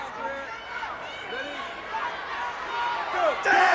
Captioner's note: audience cheers